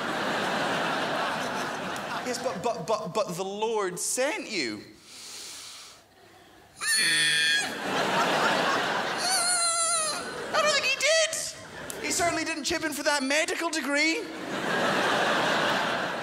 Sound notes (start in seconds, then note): 0.0 crowd laughs; 7.4 crowds laugh; 14.2 crowd laughs